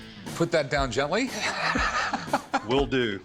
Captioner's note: laughs